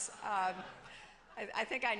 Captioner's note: laughter